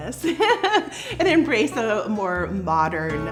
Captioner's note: chuckles